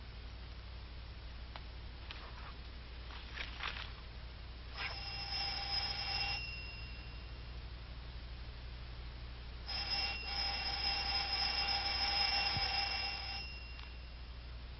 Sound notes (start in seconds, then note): 4.7 doorbell buzzing